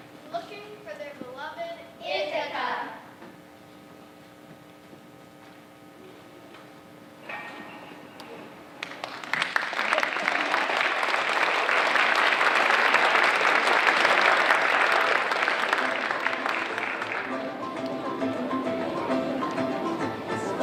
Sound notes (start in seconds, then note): 9.1 audience applauding; 17.1 upbeat music